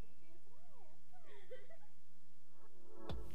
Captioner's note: girl giggling; cool vibe music